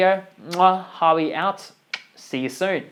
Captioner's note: kisses